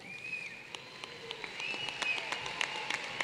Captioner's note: applause